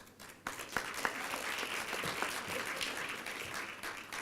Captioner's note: applause